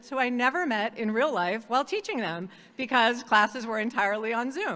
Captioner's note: none